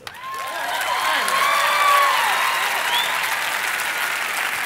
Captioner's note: audience applauding